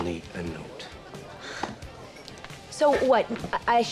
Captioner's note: sighs